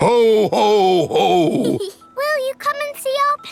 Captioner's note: snorts; giggles